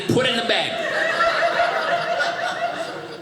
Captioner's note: audience laughing